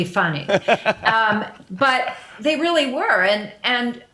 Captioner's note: laughs